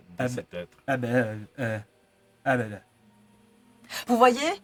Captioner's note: Alcyd speaks in his own language